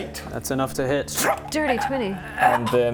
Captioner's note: painful stabbing noises